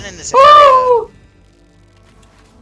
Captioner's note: demonic ahh screech